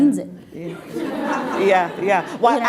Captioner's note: laughing